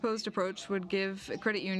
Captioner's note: speaking French